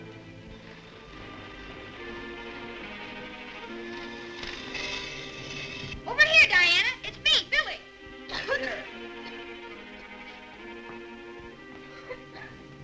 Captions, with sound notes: Over here, Diana! It's me, Billy! (Diana coughs)